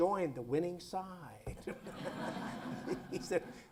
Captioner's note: laughter